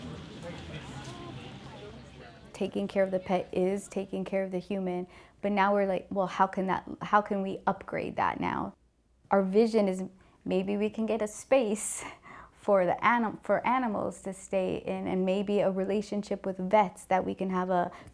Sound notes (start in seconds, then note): 2.5 background chatter